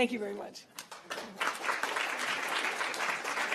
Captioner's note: applause